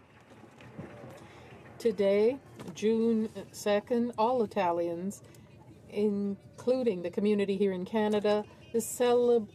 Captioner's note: applause